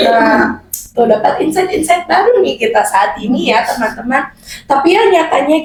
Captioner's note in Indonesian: tertawa; tertawa